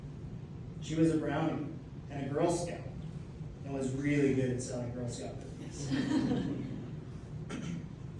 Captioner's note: laughter